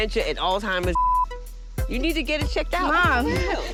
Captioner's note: beeping